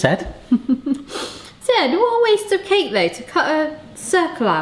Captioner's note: laughs